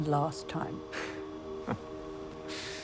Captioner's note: Jim chuckles